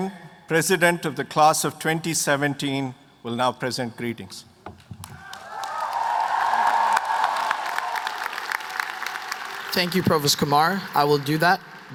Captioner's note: applause